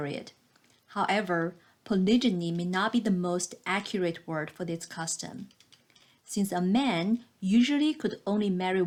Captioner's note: click